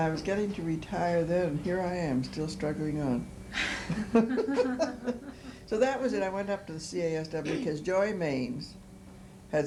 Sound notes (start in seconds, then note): 3.6 laughter